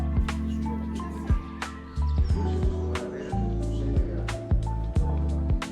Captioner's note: distant Greek chatter echoing